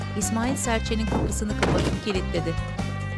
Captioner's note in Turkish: Müzik - Neşeli; Kapı kapanma sesi